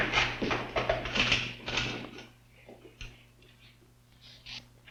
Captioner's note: footsteps thudding